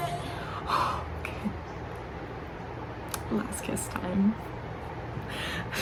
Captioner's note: deep breath